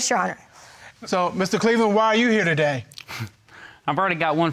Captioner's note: chuckles